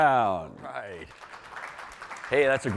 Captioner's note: applause